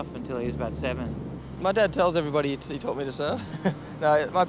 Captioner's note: laughs